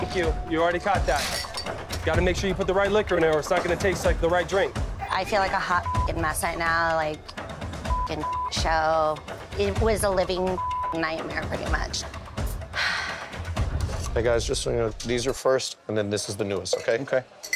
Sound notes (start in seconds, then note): 0.0 beep; 5.7 beeping; 7.9 beeping; 10.5 beeping; 12.7 sighing